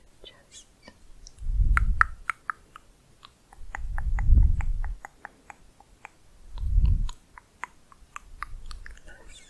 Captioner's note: tongue clicking